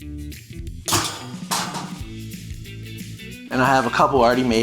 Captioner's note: tray clattering